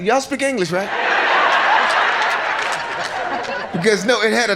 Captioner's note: audience laughs